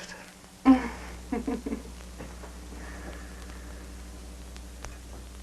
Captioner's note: Bianca chuckles